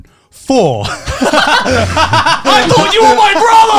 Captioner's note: laugh